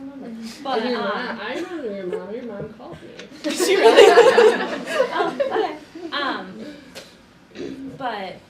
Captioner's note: all Laugh